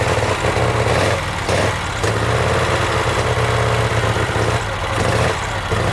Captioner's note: engine revving repeatedly